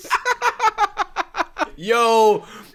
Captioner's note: laughing